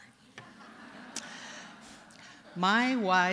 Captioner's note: laughter